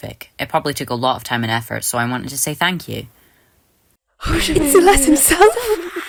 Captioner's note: indiscernable noises and screaming